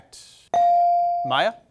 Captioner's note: bell sounding